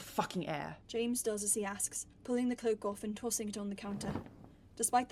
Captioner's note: cloak rustling